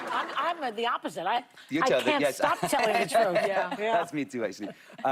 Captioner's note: laughter